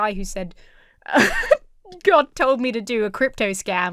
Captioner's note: giggles